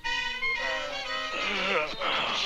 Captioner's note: yawning